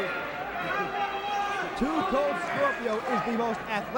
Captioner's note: crowd chatter